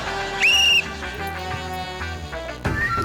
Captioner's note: funky horn music plays; blows whistle